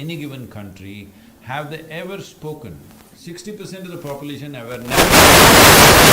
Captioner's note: audio disturbance